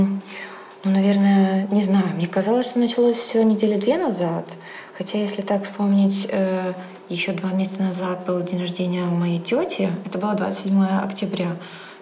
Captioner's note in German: Klientin spricht Russisch